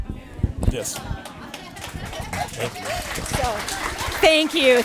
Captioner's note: audience applauding